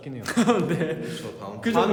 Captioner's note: suddenly bursts out laughing??